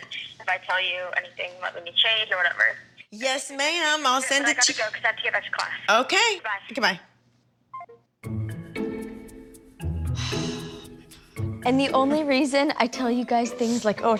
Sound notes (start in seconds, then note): 7.7 beeps; 10.1 sighs